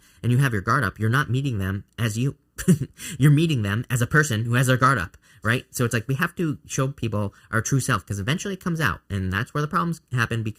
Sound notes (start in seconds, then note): 2.6 chuckling